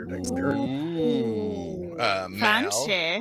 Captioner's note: they all yells